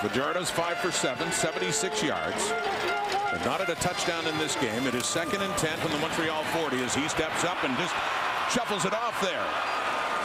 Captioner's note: crowd Noise